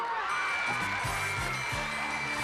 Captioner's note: cheers and applause